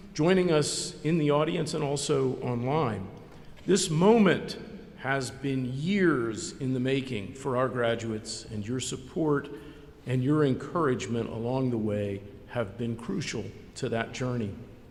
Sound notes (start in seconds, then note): none